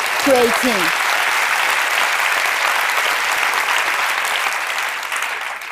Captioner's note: applause